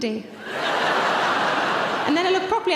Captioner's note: audience laughing